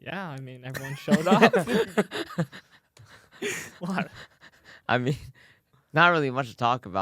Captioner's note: laughs